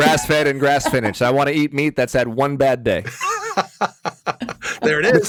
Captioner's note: Dean laughs